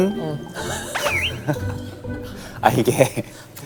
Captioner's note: perfect native pronunciation